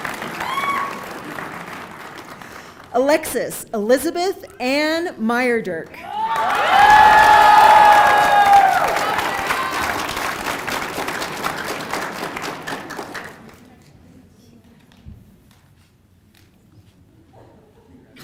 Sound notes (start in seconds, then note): 4.5 applause